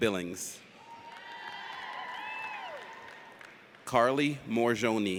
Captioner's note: audience cheers